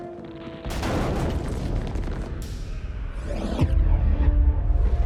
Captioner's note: shockwave blasts